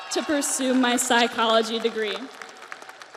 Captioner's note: audience cheers; audience applauds